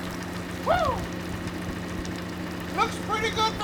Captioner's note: water dripping